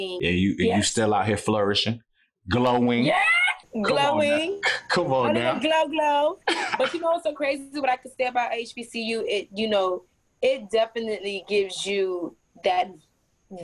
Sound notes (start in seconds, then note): 6.4 laughs